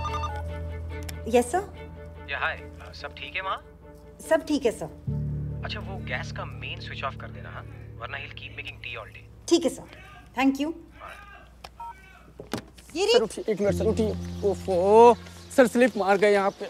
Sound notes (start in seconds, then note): 10.7 Vilas shouts